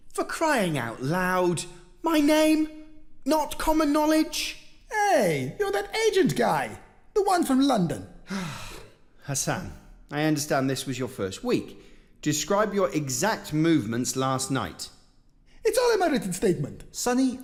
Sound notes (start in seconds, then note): 8.2 sighs